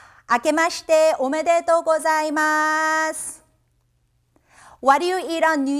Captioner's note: speaking in Japanese language